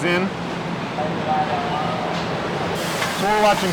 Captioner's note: factory noises